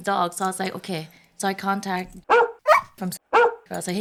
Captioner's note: bark, Bark